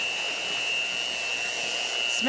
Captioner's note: mixer buzzing